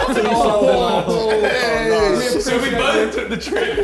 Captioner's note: men exclaiming